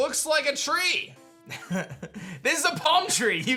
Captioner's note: chuckles